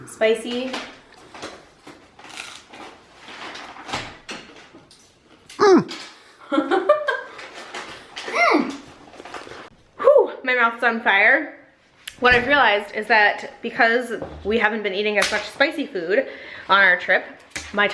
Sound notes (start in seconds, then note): 5.6 laughing